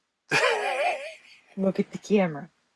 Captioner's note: laughs